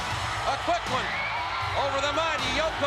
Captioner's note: spectators cheering